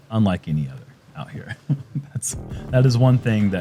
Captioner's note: chuckles